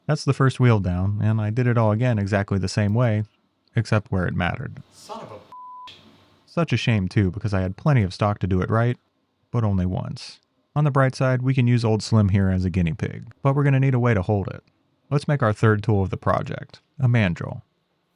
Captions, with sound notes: That's the first wheel down, and I did it all again exactly the same way, except where it mattered. Son of a (beep). Such a shame, too, because I had plenty of stock to do it right, but only once. On the bright side, we can use old slim here as a Guinea pig, but we're gonna need a way to hold it. Let's make our third tool of the project, a mandrel.